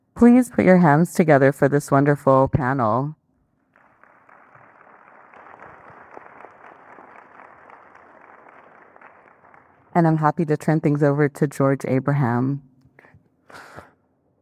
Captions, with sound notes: Please put your hands together for this wonderful panel. (audience clapping) And I'm happy to turn things over to George Abraham.